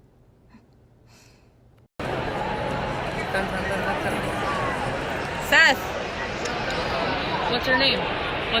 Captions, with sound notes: (crowd talking) Seth, what's your name? What-